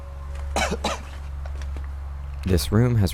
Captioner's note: coughing